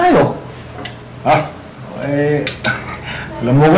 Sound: chuckles

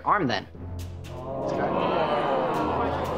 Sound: gasping

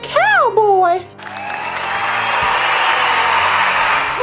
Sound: cheering

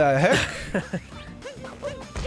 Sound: chuckles

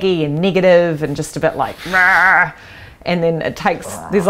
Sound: roaring exasperatedly

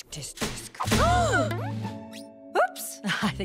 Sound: both gasp

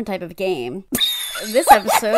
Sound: laughs, cackles

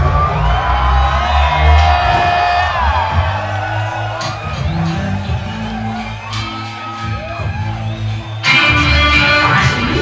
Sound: audience cheers

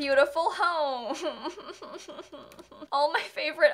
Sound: uncomfortable laughter

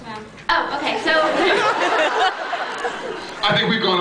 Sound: laughs

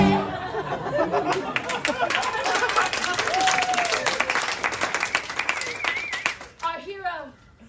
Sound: applause

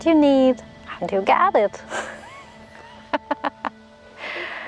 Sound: laughs

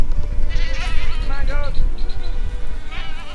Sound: bleats

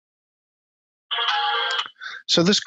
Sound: phone jingle

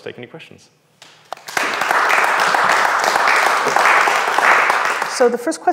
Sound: audience claps

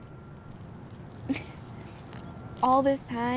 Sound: chuckles

